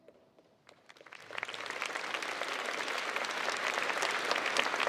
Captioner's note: crowd applauds